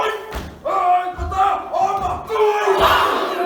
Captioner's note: man calls in te reo māori